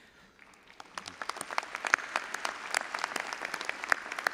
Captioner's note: all applauding